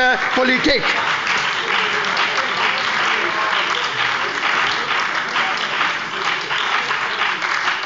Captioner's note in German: Beifall bei der SPD und der FDP